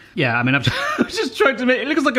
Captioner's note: laughs